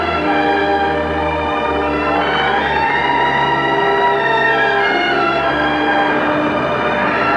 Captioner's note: dramatic, forlorn music; storm raging